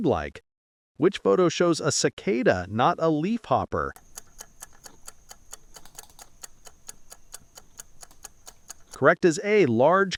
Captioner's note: cicada